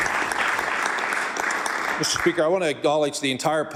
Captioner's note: applause